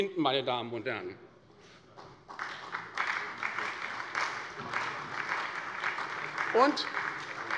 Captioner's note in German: Beifall bei der SPD